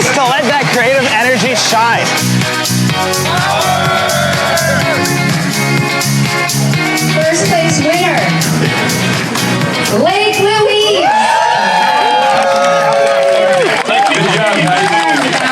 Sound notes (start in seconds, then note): 2.2 bright music; 4.6 bright music; 10.5 crowd applauds